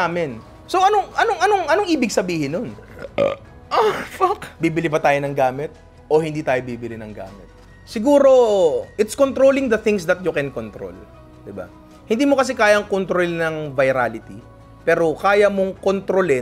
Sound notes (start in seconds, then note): 2.8 moans; 2.8 burps